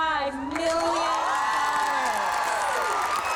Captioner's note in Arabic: هتاف